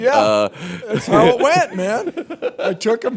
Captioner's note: laughter